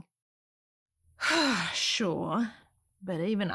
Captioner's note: sighs